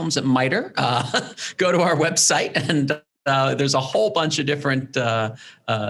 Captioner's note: laughs